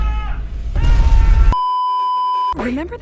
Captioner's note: beeeeeeeeeeeep